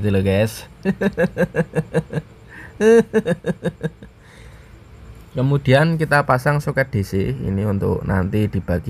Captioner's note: laughs